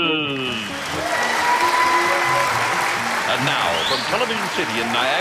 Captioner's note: cheering